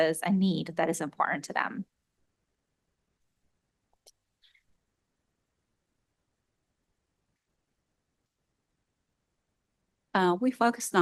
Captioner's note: pause